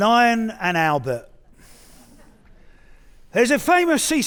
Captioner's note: audience chuckling